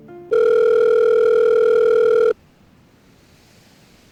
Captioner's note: phone Rings